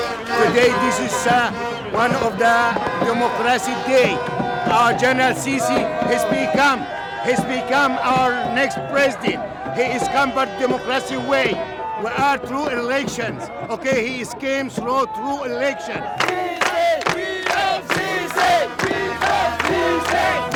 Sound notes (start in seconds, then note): 0.2 speaking English; 15.0 crowd